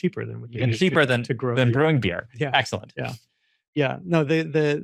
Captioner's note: laughs